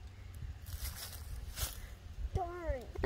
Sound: leaves rustling

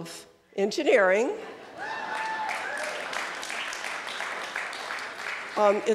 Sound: cheering and applause

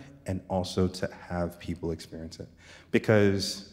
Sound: none

